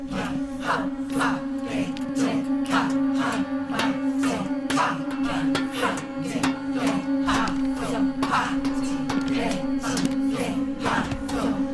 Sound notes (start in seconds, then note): 3.9 clanging rhythmically